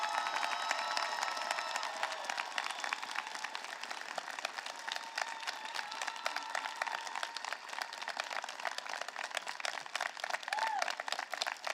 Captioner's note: applause